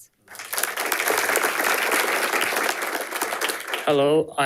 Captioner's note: audience applauding